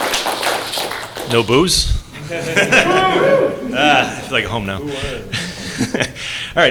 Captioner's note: applause; boos